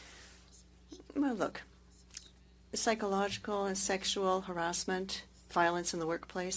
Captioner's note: speaking French